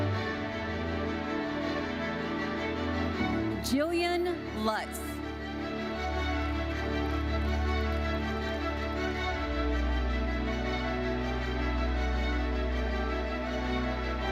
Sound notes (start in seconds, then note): 0.2 bright lively music continues; 6.5 audience applauding; 9.5 bright lively music continues